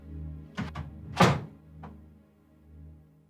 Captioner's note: sound of door closing